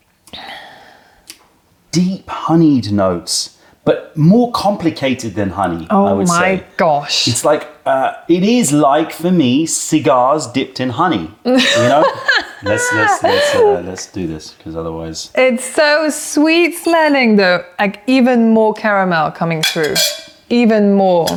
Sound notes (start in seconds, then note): 11.5 laughter